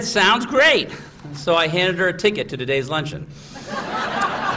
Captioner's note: laughter